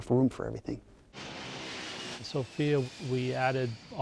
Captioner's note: airplane taking off